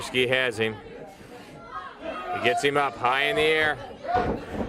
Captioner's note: crowd chatter